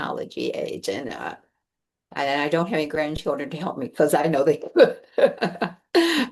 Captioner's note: laughs